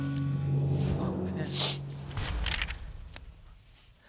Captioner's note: sniffling